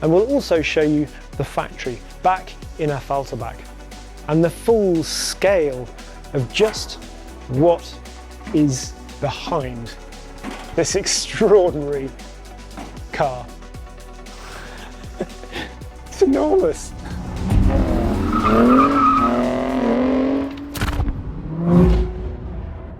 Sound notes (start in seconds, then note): 14.6 chuckles; 18.7 tires screech; 20.1 engine revving